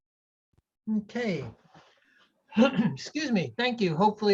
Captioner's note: coughs